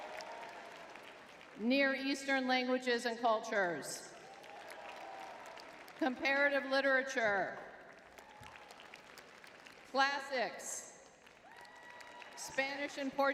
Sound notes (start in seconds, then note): 0.0 crowd cheering; 4.1 crowd cheering; 7.9 crowd cheering and applauding; 11.4 crowd cheering